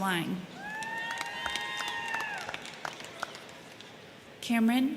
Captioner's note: crowd cheering; crowd clapping